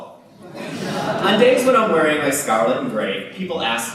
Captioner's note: laughter